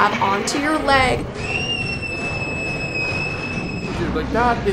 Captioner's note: screams